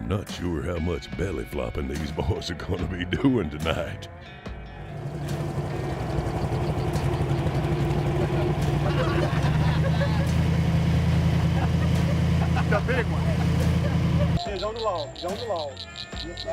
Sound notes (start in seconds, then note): 6.1 boat motor running; 9.1 laughing